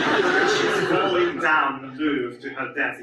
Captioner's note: audience laughs